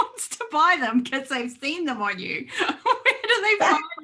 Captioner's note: laughs